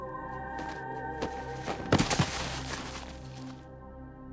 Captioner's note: body thuds; brooding music continues